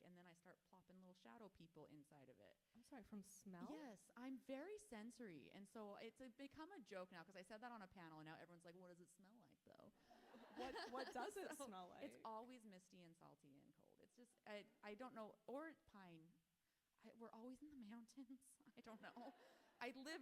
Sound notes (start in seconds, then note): 10.5 audience laughing; 10.6 author laughs